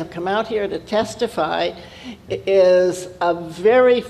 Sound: none

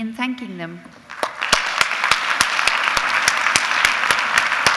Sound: audience clapping

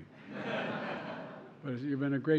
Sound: laughter

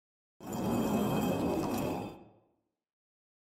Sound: concrete scraping sound

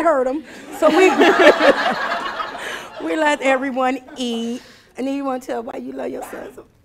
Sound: laughing

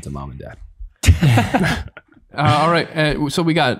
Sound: all laughing

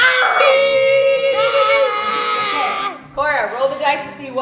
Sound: bell rings; screams

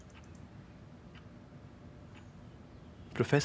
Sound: clock ticks

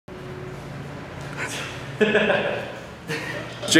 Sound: laughter

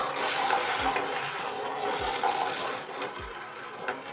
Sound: steel marbles rolling

